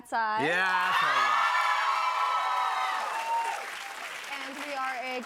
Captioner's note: cheers and applause